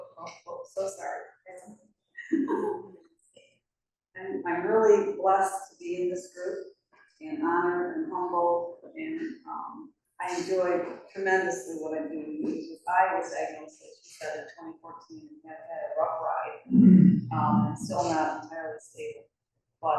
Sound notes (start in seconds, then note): 2.2 chuckles